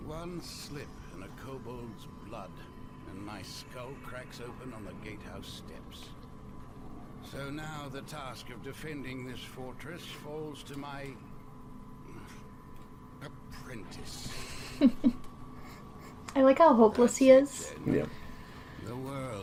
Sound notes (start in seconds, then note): 12.9 sigh; 14.2 chuckles